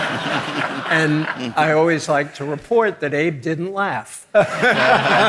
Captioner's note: audience laughing; laughs; audience laughing